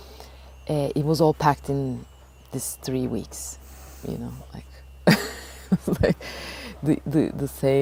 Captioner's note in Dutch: lacht